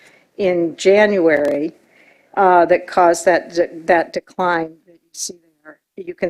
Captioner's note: distorted audio